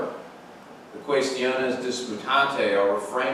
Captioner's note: speaks in foreign language